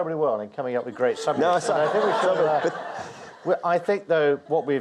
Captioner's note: audience laughs